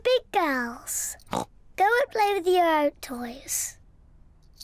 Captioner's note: snorts